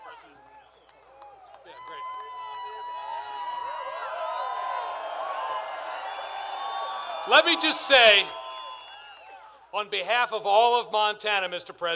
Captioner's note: applause